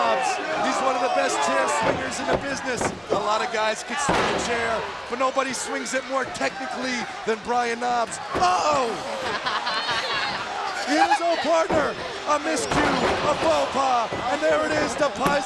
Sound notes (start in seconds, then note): 9.2 Daffney laughing